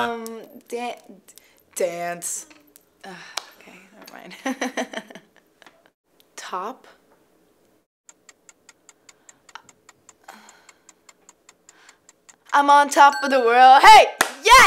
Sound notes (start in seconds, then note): 8.1 clock ticking